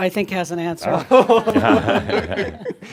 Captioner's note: laughs